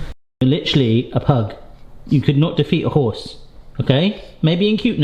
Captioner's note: none